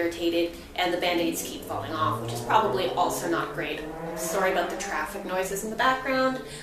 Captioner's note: car noise